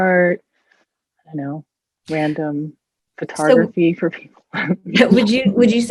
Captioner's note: chuckles